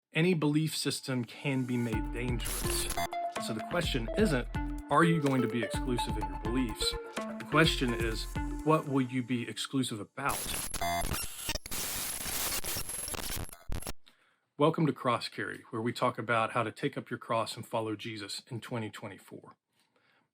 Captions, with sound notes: Any belief system can be made dangerous, And so the question isn't, are you going to be exclusive in your beliefs? The question is, what will you be exclusive about? (glitching noises) (glitching noises) Welcome to Cross Carry where we talk about how to take up your cross and follow Jesus in 2024.